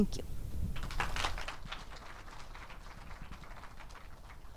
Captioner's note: audience applauds